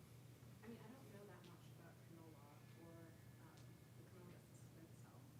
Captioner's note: participant speaking faintly